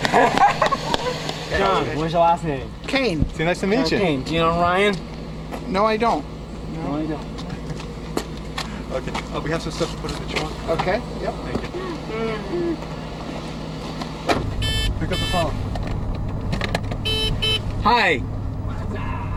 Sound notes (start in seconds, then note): 16.8 beeping